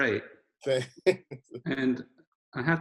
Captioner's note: laughing